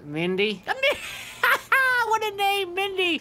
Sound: laughing

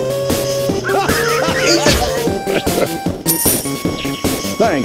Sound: engineer laughs

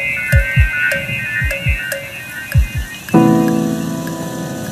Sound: heartbeat sound effect; soft music

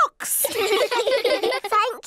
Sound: all laugh

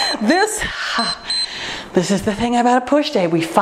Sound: timer beeps

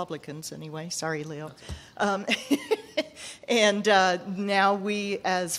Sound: laughs

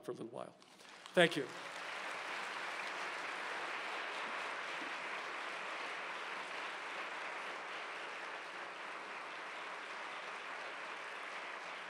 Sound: applause

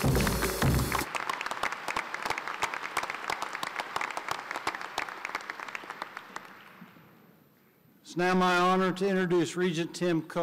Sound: applause

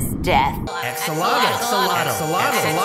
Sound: repeated chanting

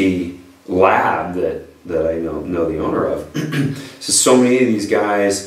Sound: coughs

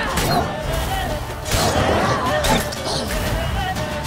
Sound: wolves growling

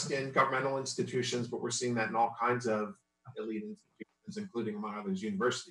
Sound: audio distorts

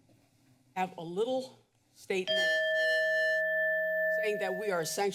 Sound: timer dings

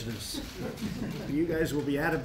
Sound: laughter

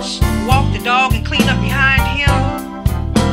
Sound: woman on phone

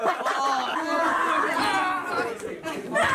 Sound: screaming continues

